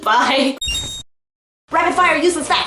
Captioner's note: Legend of Zelda rupee sound effect